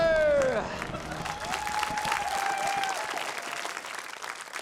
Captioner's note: cheering, applause